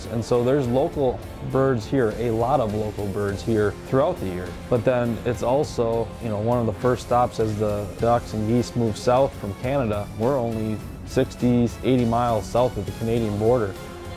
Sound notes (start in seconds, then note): none